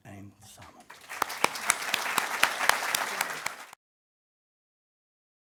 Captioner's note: applause